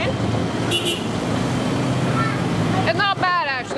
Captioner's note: car horn beeping